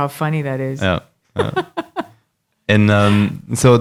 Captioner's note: laughing